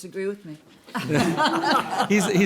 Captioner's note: laughter